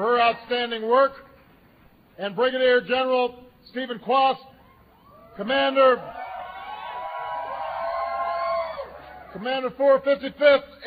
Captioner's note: applause